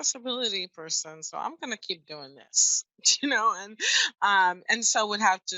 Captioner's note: laughs